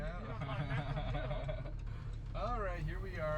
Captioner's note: laughs